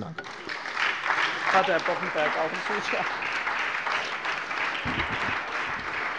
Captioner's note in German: Beifall bei der SPD